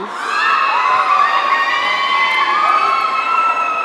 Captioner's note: audience cheering